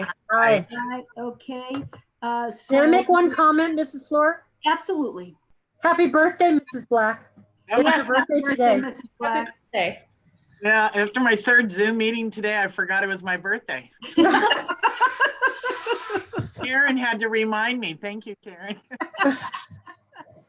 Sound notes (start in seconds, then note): 14.0 laughter